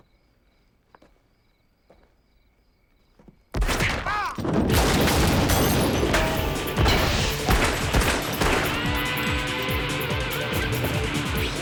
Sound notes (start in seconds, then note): 4.0 screaming; 4.5 gun firing; 7.8 suspenseful orchestral music